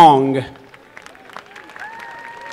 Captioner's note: applause